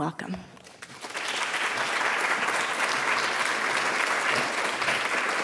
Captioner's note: audience applauding